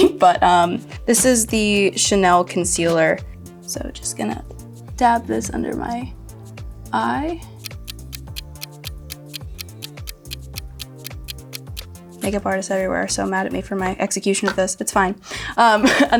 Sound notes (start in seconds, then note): 7.4 clock ticks; 15.8 laughs